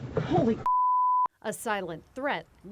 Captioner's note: beep